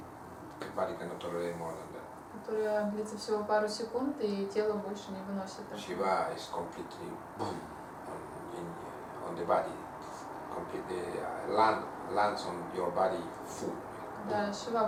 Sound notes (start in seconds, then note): 7.6 bhum